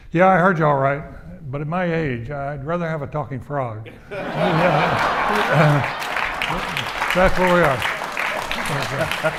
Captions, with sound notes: "Yeah, I heard you all right. But at my age, I'd rather have a talking frog." (audience laughing and applauding) So that's where we are.